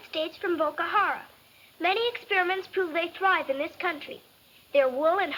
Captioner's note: none